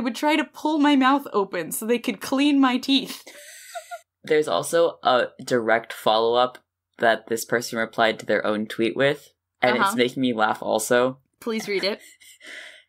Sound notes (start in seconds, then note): 3.4 laughs